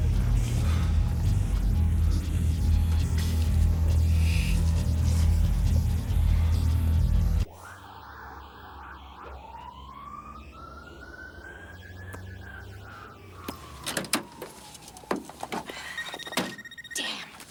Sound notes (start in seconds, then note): 0.2 breathing heavily; 7.6 distant siren wailing; 15.0 phone ringing